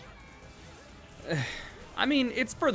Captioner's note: sigh